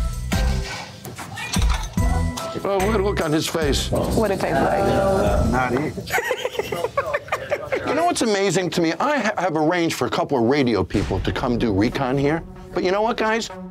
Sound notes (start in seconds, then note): 6.0 woman laughs